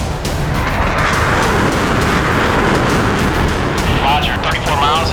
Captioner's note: jets roaring; voiceover